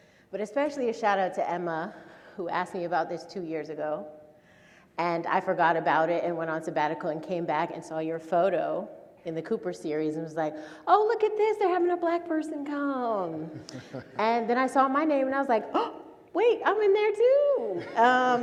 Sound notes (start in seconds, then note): 13.6 gasps